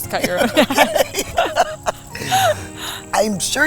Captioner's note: laughing